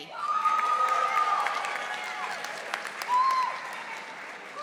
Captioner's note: audience applauding